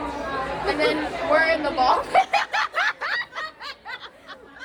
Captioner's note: laughs